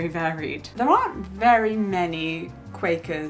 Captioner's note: none